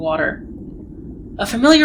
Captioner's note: underwater sounds